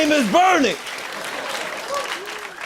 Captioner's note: cheers and applause; laughter and applause